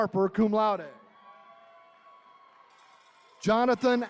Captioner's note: attendees cheering